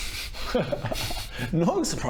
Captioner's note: suspicious laugh